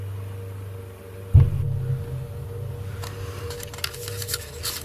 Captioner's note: thudding sound